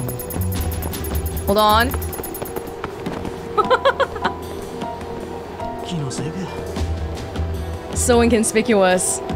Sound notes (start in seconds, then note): 3.5 chuckles